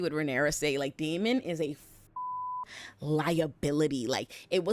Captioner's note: beep